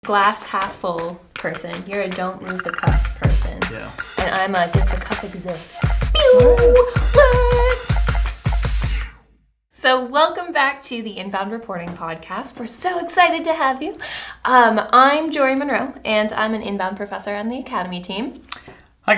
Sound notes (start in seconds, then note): 6.0 upbeat music; 6.1 silly beeping noises